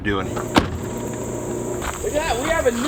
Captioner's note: footsteps plodding; door slamming